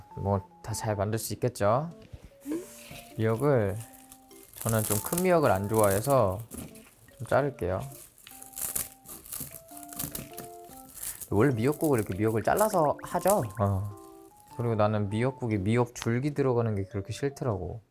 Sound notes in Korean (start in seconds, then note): 7.8 싹둑싹둑